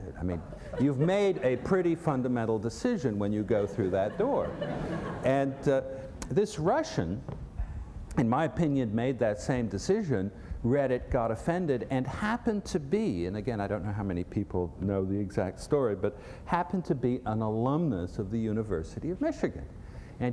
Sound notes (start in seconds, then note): 3.5 laughter